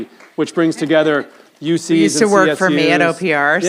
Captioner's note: audience applauds